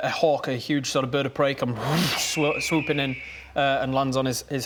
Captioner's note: whoosh